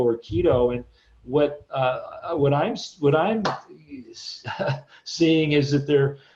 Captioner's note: chuckles